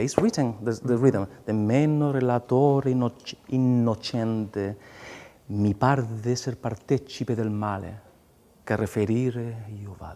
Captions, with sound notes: It's written, the rhythm, "E non Dimeno relator innocente." [SPEAKING LYRICS IN ITALIAN]